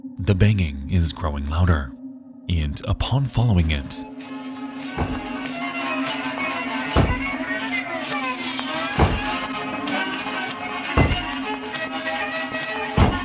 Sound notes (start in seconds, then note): 4.1 object banging; 4.1 upbeat music playing